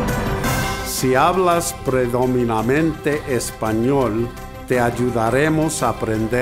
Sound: speaking in foreign language

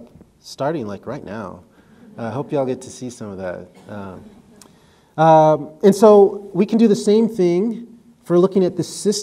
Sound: audience noises

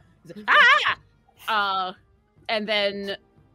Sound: yells

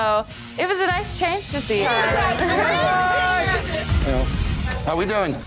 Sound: cheers

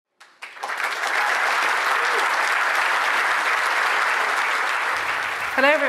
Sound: applause

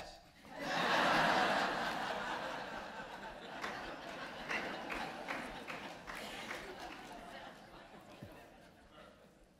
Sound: laughter

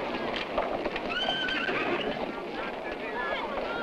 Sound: horses neighing

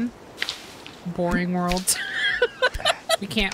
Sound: laughter

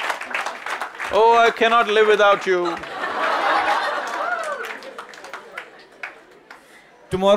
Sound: laughter/Applause

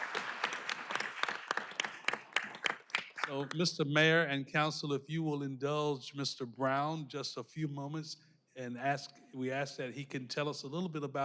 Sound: applause

